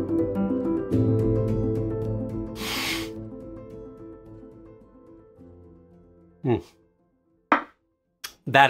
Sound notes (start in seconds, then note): 2.5 exhales sharply; 7.5 cup thuds